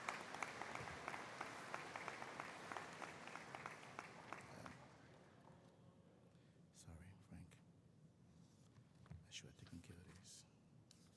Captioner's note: applause